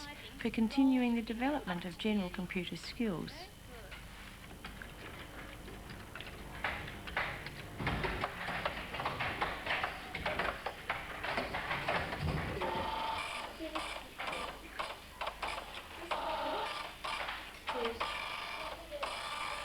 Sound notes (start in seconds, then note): 4.9 sound of typing; 14.2 sound of printer and indistinct background voices; 19.4 sound of printer and indistinct background voices continues during the credits